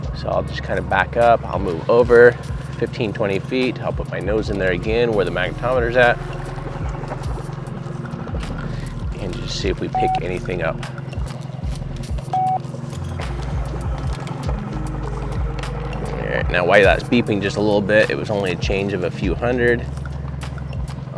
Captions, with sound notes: So I'll just kind of back up, I'll move over 15, 20 feet, I'll put my nose in there again where the magnetometer's at. And just see if we pick anything up. (electronic beeps) Alright, now why that's beeping just a little bit, it was only a change of a few hundred.